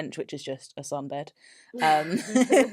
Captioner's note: laughs